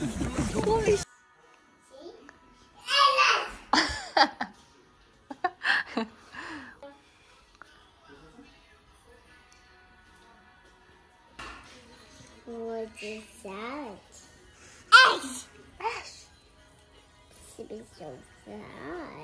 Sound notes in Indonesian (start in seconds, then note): 3.7 haha